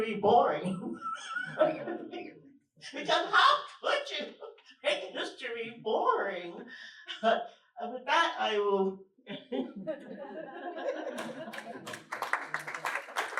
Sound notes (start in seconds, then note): 5.7 laughter